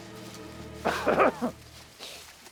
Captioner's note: bartram coughs